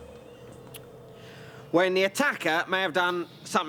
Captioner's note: tuts